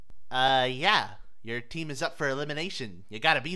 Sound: none

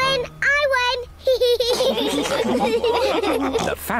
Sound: all laugh

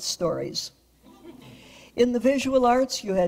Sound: audience laughs

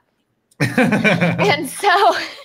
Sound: laughs

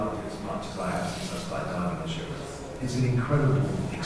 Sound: speaker's voice echoing on video

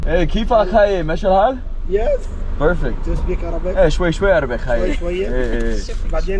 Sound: speaking Arabic

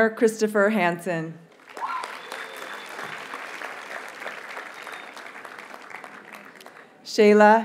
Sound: audience cheers and applauds

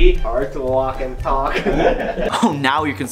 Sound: laughing

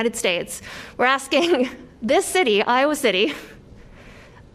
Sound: laughter

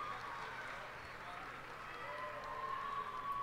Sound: cheers and applause

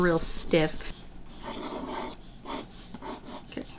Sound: pencil scratching on paper

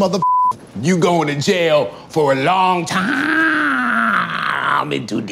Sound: beeps; groans

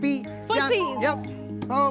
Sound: cuckoo

